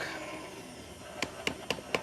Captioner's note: tapping the mixer